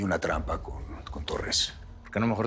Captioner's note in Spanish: none